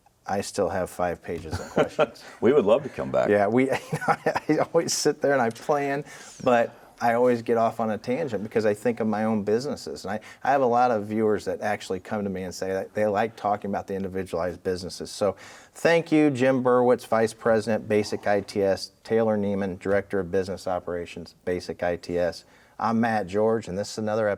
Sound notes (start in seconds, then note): 3.6 laughs